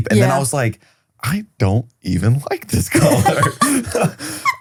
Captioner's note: laughs